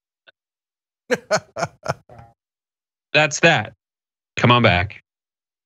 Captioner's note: laugh